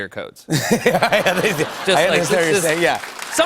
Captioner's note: laughter